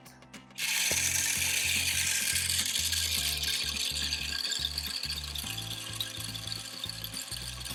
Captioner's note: Deer Feeder spraying corn